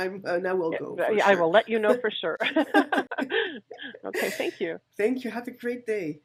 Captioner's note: laughs